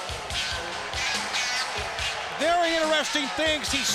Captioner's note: applause